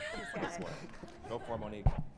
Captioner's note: all laugh